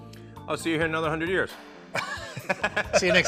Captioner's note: both laughing